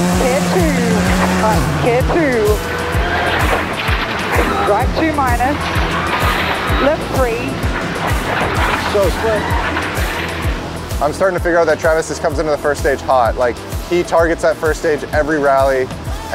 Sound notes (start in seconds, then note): 3.3 engine revs